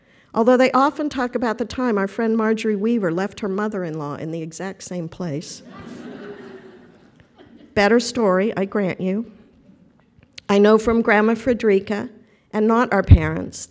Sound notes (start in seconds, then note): 5.6 laughter